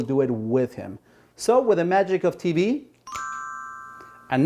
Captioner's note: bell chimes